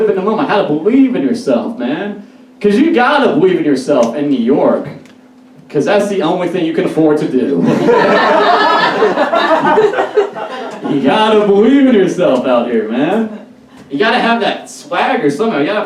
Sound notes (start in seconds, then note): 7.6 audience Laughs